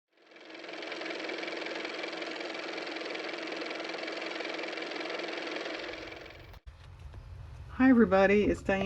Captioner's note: car motor